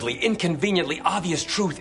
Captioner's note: none